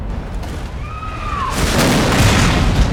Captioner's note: people screaming